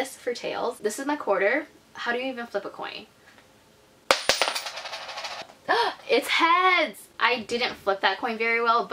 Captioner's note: gasp